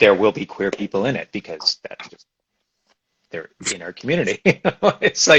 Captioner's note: laughs